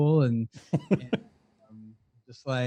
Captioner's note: host laughs